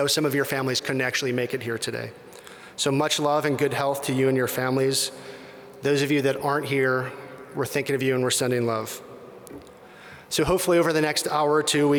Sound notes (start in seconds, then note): none